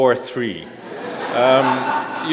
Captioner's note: laughter